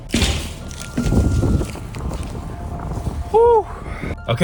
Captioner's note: thunder rumbling